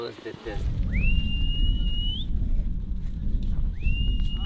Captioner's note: whistles